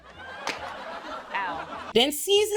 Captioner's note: audience laughs